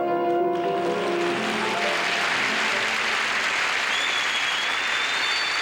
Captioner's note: audience applauding